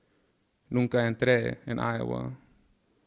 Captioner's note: speaking in Spanish